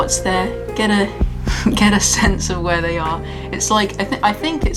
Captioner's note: laughs